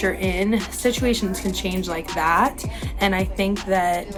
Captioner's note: snaps fingers